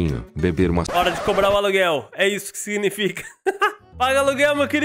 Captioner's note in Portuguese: risos